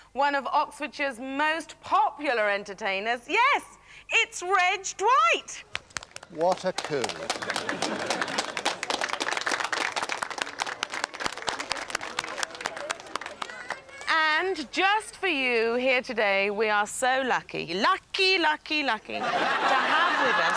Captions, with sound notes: one of Oxfordshire's most popular entertainers. Yes, it's Reg Dwight! What a coup. (Polite applause) And just for you here today, we are so lucky – lucky, lucky, lucky – to have with us